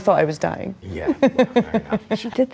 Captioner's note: chuckles